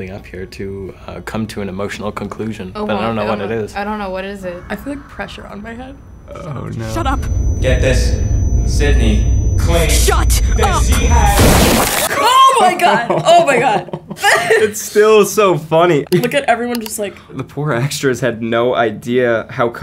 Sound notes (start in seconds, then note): 11.2 gruesome wet explosion; 12.2 Sofia laughs; 12.7 laughs; 16.7 computer click